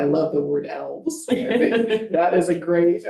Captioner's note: board members laughing